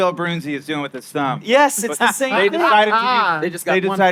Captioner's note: laughing